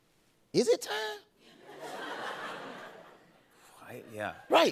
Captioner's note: laughter